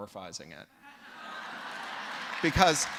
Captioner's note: laughter